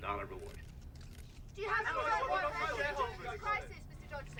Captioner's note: reporters clamoring